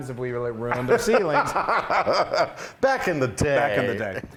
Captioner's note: laugh